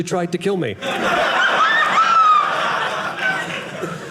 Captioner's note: audience laughing